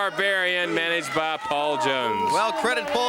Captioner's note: crowd chatter